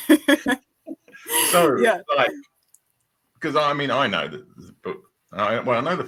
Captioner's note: laughs